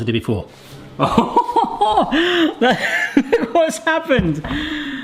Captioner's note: laughs